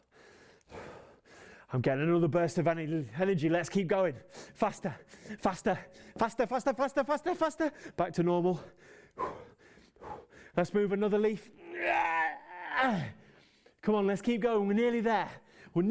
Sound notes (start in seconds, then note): 9.1 finally sighing; 11.5 grunting